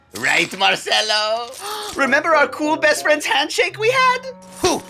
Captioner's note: gasp